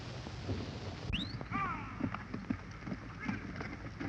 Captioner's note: whistling, shouting